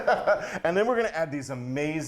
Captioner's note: laughing